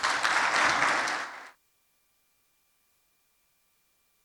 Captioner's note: applause